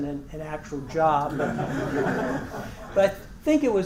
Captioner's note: laugh